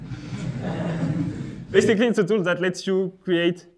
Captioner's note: laughs